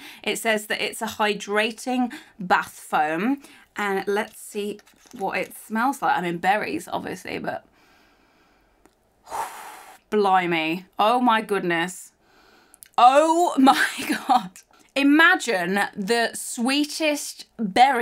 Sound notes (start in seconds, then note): 9.2 exhales